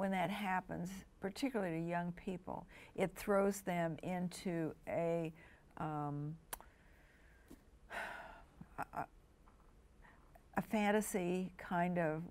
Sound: sigh

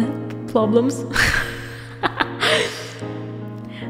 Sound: laugh

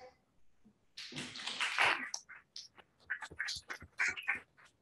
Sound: applause

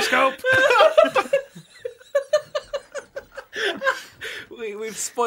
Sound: laughter

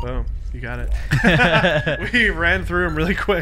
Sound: laughing

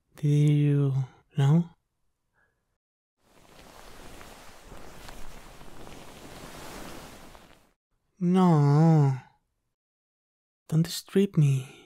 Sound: sheet noises

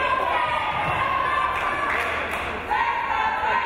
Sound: crowd

